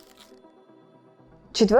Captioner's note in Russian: звук мятой бумаги